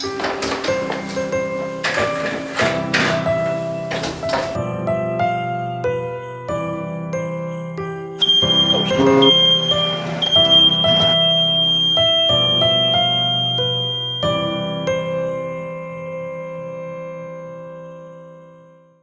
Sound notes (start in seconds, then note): 8.2 smoke alarm blaring; 10.6 smoke alarm flatlines